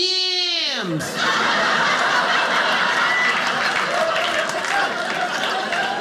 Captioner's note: audience laughing